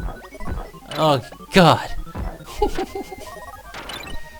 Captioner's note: pained laughter